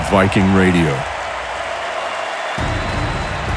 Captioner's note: people applauding and cheering